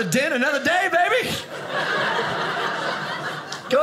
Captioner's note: audience laughing